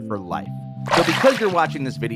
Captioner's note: water splashes